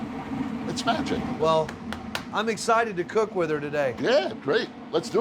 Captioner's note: taps oven